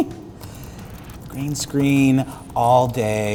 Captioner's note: snickers; clicking, typing